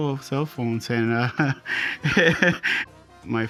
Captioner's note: laughter